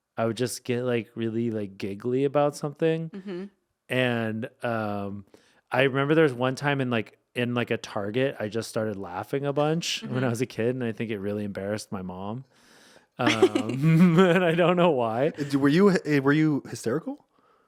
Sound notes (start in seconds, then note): 13.2 laughing